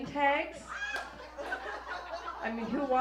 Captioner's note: audience laughs